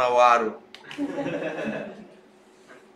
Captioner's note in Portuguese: risos